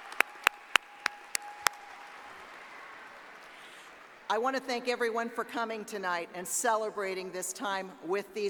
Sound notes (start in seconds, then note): 1.8 applause